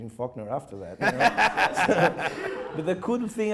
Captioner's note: laughing